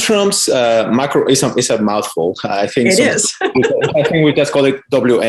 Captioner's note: laughs